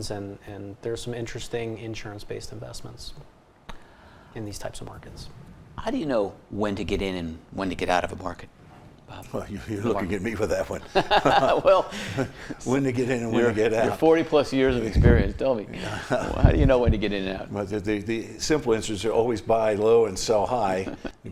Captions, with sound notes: And there's some interesting insurance-based investments in these types of markets. - How do you know when to get in and when to get out of a market, Bob? - Well, you're looking at me for that one. - (laughs) Well. - When to get in and when to get out. - Your 40-plus years of experience, tell me, how do you know when to get in and out? - Well, the simple answers are always buy low and sell high.